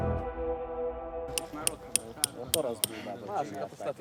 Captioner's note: voices and hammering